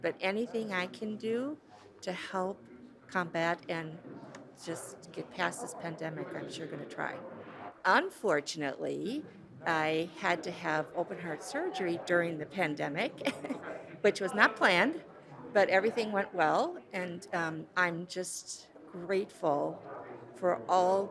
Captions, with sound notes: but anything I can do to help combat and just get past this pandemic, I'm sure gonna try. Unfortunately, I had to have open-heart surgery during the pandemic. (chuckles) Which was not planned, but everything went well. And I'm just grateful for all people